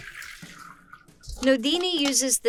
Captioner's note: water pours